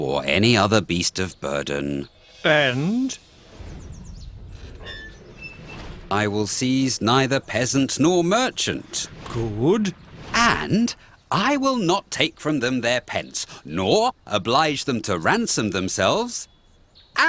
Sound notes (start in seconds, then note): 3.3 armour squeaks